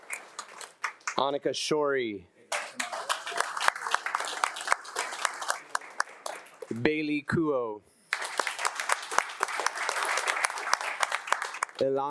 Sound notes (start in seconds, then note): 2.5 attendees applauding; 8.1 attendees applauding